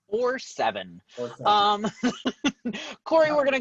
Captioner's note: laughs